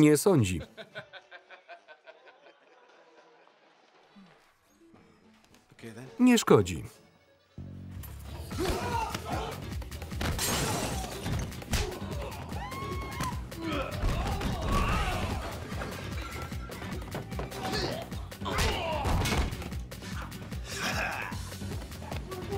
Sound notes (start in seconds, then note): 0.6 laughing; 8.5 grunting; 8.8 fast-paced music; 11.8 screaming; 17.5 grunting; 22.3 grunting